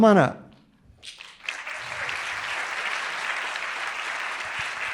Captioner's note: audience applauding